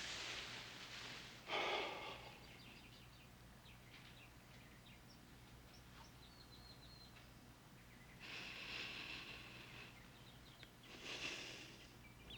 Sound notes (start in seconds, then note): 1.4 exhales; 1.4 sighs